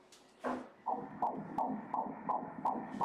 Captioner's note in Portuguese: batidas do coração